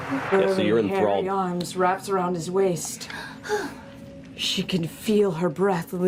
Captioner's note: sighs dreamily